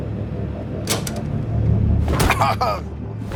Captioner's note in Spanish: Sonido al abrir el maletero; Quejidos